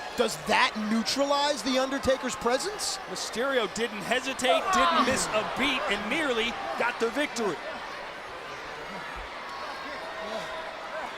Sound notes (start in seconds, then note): 7.6 crowd cheering